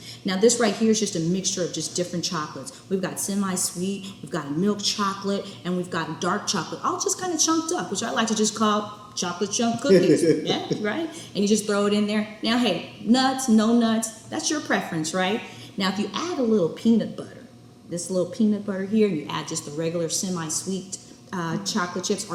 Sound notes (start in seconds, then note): 9.8 laughs